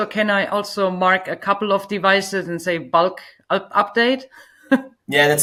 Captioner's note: laughs